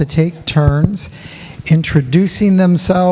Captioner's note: none